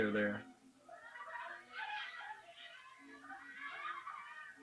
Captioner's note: children sob